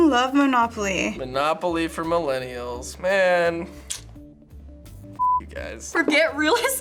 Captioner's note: clicks tongue